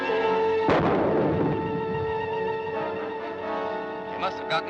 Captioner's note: grenade booms